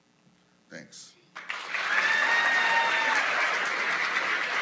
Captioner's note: applause